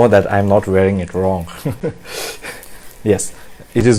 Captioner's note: laughs